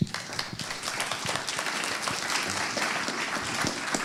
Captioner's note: applause